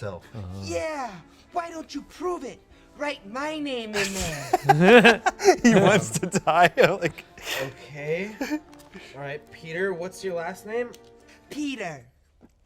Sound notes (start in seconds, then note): 3.9 laugh